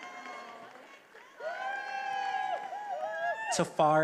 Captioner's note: attendees applauding and cheering